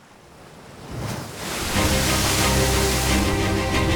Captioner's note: water splashing; exciting music